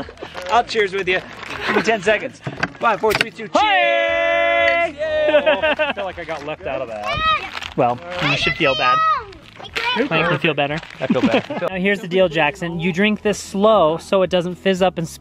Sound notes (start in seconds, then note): 5.1 laughs